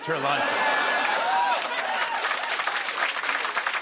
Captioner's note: booing; cheering and applause